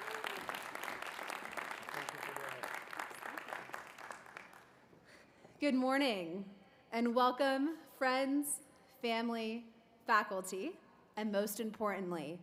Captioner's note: applause